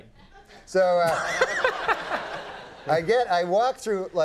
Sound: Conan and audience laugh

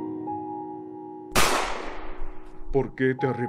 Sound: gunshot

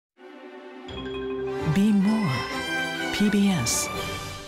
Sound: inspiring music; voiceover

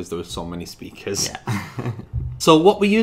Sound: laughs

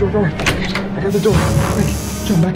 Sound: squeaking

